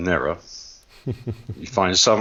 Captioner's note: chuckles